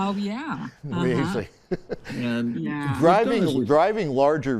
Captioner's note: chuckling